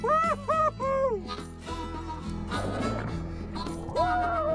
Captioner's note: fishermen yelling